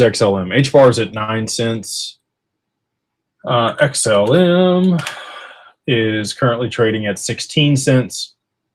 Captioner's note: sighs